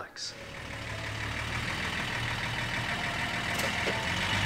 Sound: engine rumbling

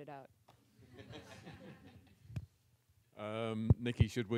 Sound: audience laughs

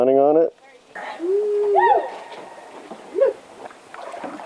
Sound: man yells

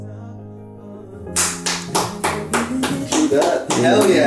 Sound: clapping

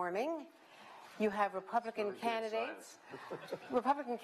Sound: laughter

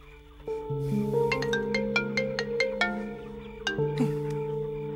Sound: mobile ringing

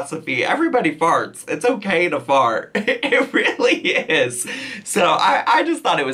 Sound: laughs

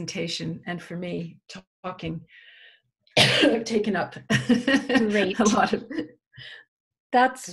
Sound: cough; laughs

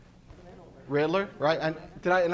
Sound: audience answering

